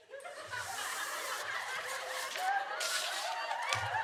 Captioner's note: audience laughter